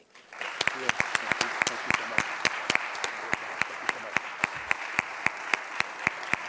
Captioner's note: audience applauds; men murmuring